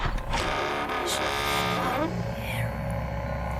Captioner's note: door creaks